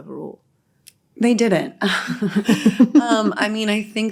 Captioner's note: all lauhging